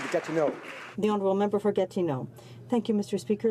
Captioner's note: some Applause